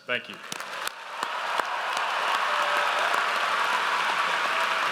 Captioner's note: audience applauds